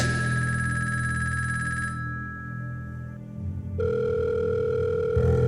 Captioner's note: phone continues ringing